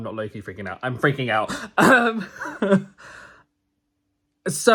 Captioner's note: laughs